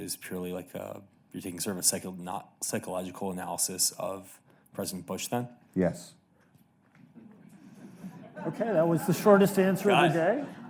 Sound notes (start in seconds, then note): 7.2 audience laughing